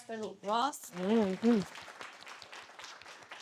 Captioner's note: audience applauding